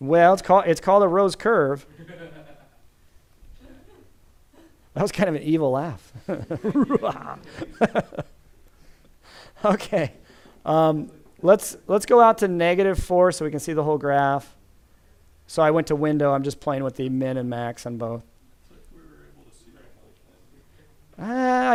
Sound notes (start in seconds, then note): 1.9 laughter; 6.2 imitating evil laughter